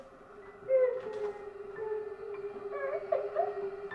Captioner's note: woman whimpering